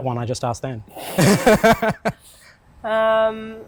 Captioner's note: both laugh